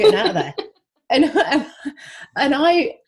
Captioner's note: laughs